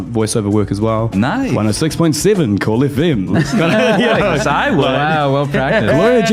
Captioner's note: laughing